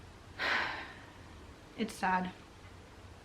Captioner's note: sighs